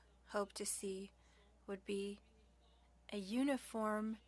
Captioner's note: speaking French